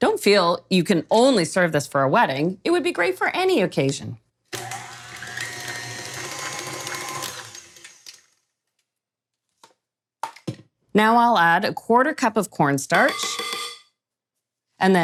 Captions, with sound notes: Don't feel you can only serve this for a wedding. It would be great for any occasion. (mixer whirring) Now, I'll add 1/4 cup of cornstarch, (cup tapping)